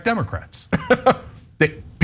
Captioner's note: laugh